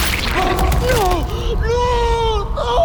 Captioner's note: blood squelches